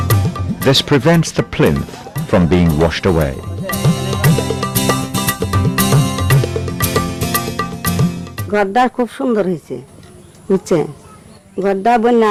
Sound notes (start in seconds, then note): 8.6 non-English